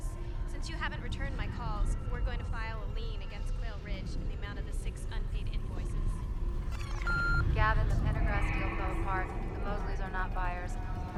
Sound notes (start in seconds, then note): 6.6 beeping; 7.9 voiceover